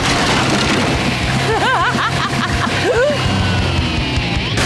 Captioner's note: laughing